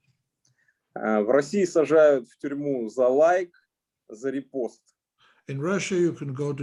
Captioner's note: speaking Russian language